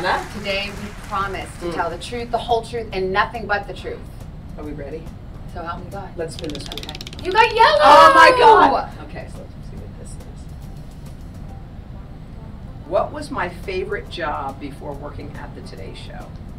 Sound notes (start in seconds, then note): 6.2 wheel clicking